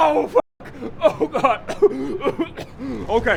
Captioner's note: choking